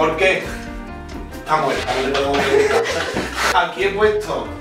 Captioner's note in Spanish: risas